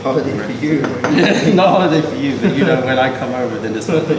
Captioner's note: laughter